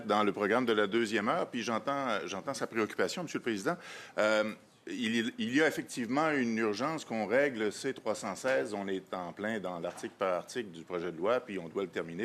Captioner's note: speaking French